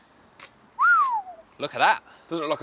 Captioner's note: whistles